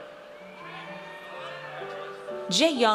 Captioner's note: audience cheers